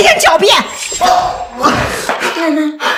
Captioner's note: scoffs